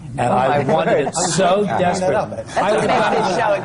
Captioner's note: laughter; laughs